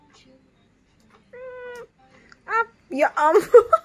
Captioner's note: meows